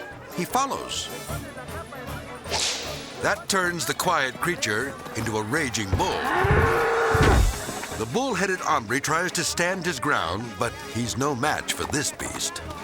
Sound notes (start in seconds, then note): 5.5 bull grunting